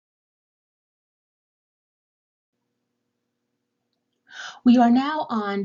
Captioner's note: pause